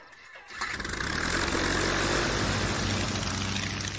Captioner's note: propellor roaring